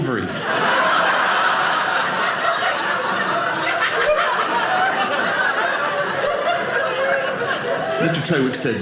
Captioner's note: audience laughing